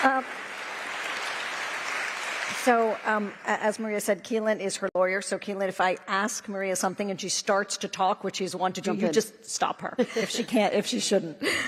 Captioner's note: applause